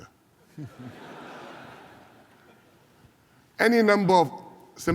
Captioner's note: laughter